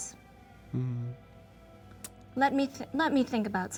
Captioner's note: Lord Windhaven hums imperiously